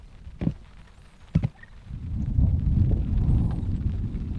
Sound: light thumps

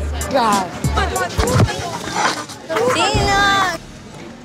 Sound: Deena thudding

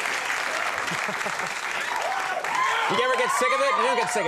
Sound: Tiger Woods chuckles

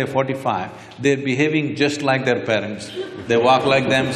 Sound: laughter

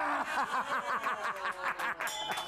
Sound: applause; bell rings

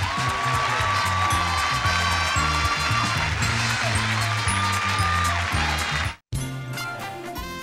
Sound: audience cheering and applauding; upbeat music; dramatic music

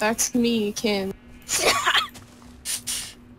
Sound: laughs

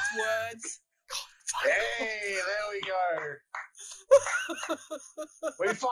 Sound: slow claps

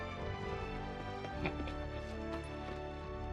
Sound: laughs

